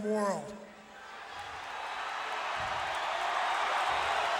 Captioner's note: crowd cheering